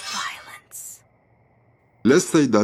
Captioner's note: tsss!